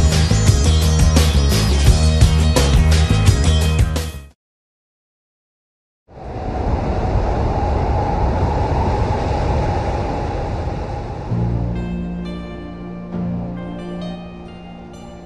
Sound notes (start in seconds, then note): 9.6 wind blowing; 14.9 soft music